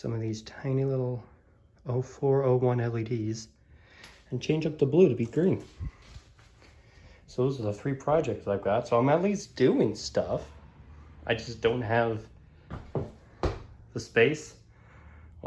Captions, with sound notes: These tiny little . .. 0402 LED's . .. And change up the blue to be green. And those are the three projects I got, so I'm at least doing stuff. I just don't have . .. [ footsteps ] the space . ..